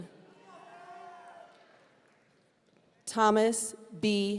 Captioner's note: audience cheering